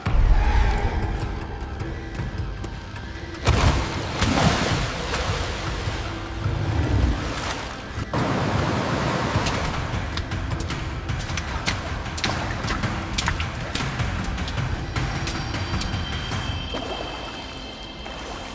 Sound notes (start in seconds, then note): 0.1 dramatic music plays; 6.3 water splashing